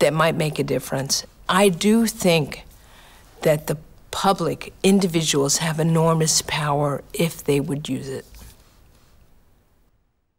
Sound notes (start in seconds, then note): none